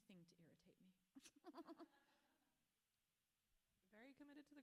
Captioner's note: author laughs